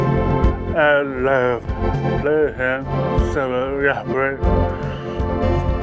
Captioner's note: speaking foreign language